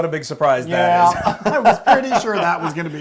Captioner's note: laugh